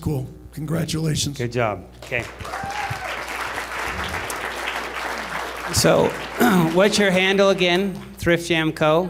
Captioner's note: applause